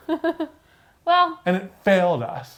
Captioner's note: laughing